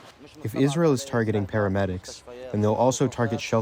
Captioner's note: through translator